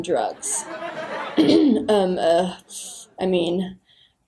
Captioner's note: clears throat